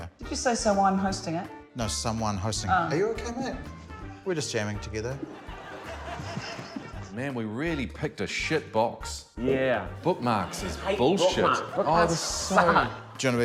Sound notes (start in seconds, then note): 5.3 both chuckle